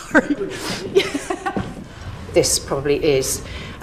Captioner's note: laughs